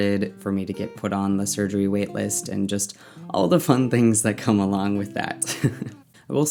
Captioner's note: laughs